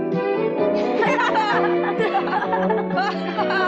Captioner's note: boys laughing